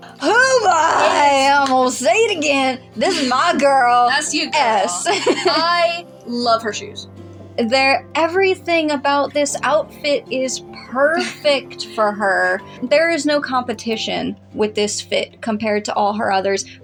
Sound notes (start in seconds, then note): 4.8 laugh; 12.1 chuckle